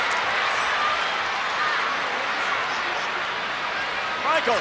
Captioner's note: crowd chattering